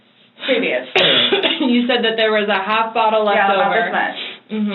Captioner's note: coughs